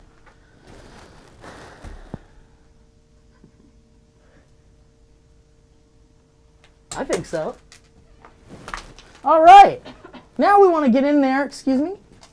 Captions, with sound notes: (sighs) I think so. All right, now we wanna get in there, excuse me.